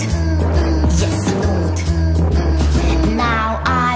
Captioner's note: mm, mm, mm, mm